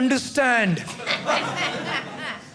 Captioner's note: audience laughing